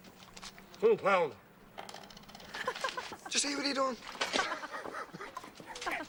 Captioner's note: Risas